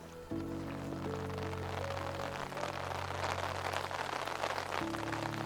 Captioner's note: rain pattering